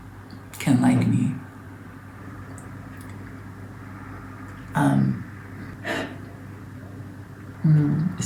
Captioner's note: sighs